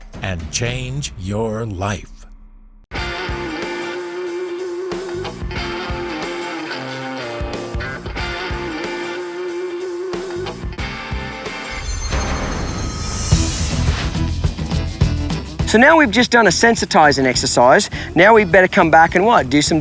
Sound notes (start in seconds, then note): 3.2 twangy country music; 11.5 shimmering; 13.3 upbeat country music